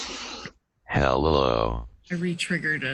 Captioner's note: computerized Voice